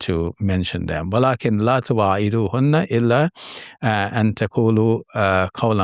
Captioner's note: speaking in Arabic